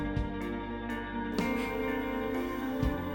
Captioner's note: Max scoffs